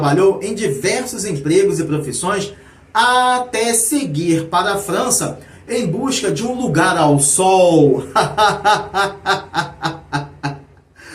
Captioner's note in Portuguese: risadas